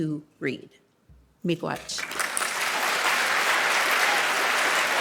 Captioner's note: audience applauding